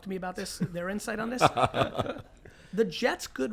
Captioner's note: laughs